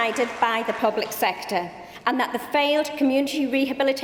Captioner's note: applause